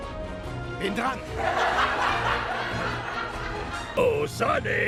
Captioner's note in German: Gelächter